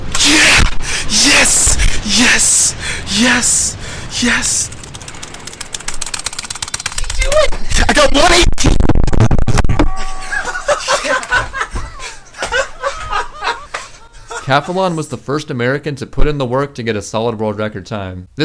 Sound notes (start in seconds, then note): 5.4 button-mashing; 9.4 loud microphone feedback; 10.0 laughter